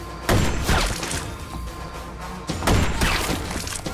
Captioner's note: gunshots